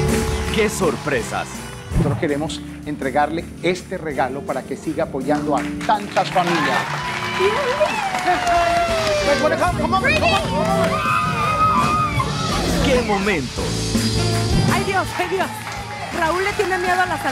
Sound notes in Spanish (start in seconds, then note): 5.2 Aplausos; 10.6 Gritos